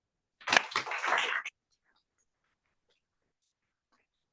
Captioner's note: audience applauds